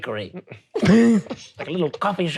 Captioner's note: laughing